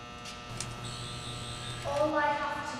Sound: sonic buzzing

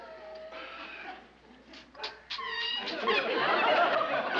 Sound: kissing sound

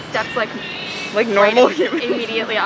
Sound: laughs

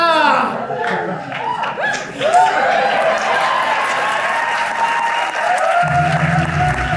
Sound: cheers and applause; dramatic music

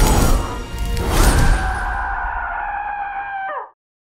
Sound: soldiers groan; soldier screams

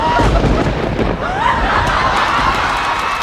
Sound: thunder rumbles; audience cheering and laughing

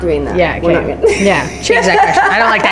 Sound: laughs

